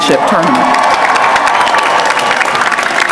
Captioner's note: applause